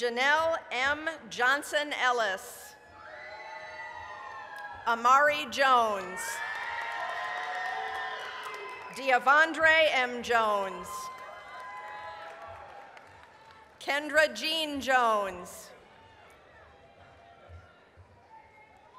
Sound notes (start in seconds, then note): 3.4 applause, cheering; 6.1 applause, cheering; 11.6 applause, cheering; 17.3 applause